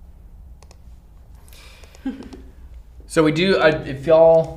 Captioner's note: mouse clicking